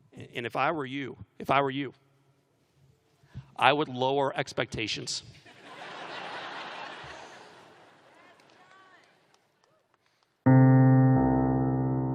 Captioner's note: laughter